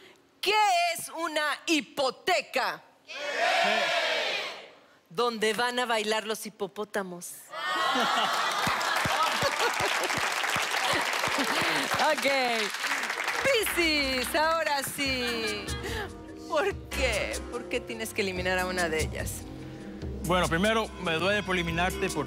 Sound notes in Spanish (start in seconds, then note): 10.5 Aplausos